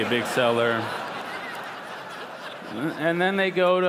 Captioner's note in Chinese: 笑聲